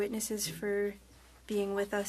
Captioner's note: speaking French